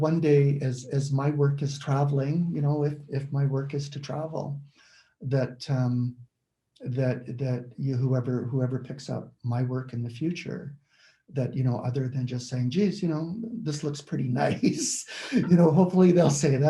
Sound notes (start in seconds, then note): 14.2 laughs